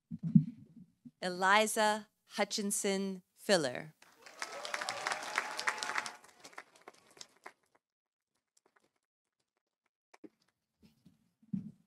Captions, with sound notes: Eliza Hutchinson Filler. -(audience cheering) -(audience applauding)